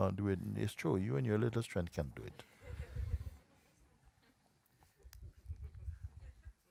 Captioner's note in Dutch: gelach